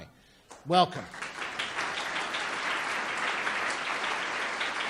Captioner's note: audience claps